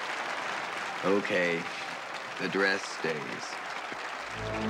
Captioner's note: applause